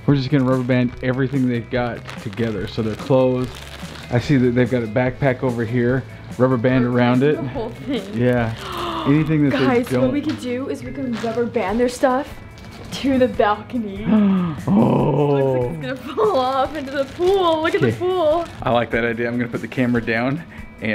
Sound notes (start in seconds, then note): 8.5 gasps; 14.1 gasps